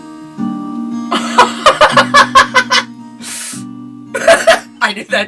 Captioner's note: the goblin mocks